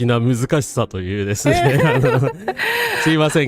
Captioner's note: laughter